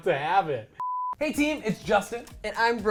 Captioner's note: electronic beeping